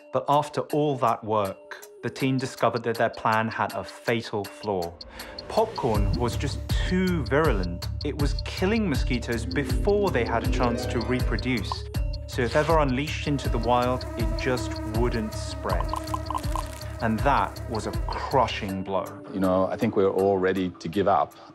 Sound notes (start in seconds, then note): 15.4 mosquito buzzing, corn popping